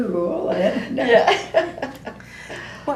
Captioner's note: laughter